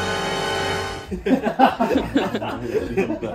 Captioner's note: hard laughing